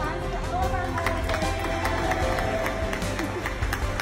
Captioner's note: cheering